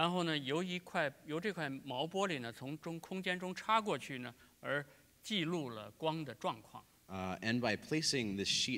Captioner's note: speaking in Chinese